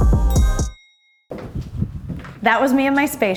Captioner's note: elevator dings